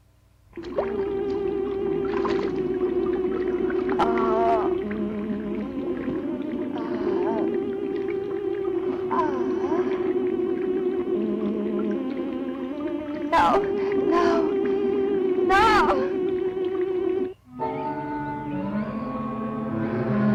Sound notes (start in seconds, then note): 0.6 bubbling; 1.5 unsettling electronic music; 4.0 groans; 17.5 dramatic music